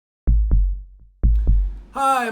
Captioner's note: electronic heartbeats